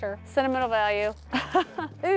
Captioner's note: laughs